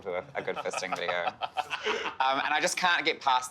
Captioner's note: laughing